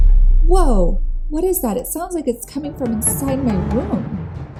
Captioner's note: bang